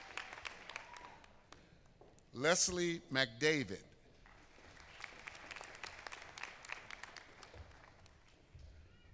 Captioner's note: applause